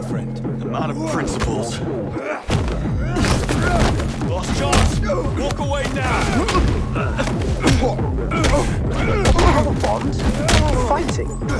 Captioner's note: groaning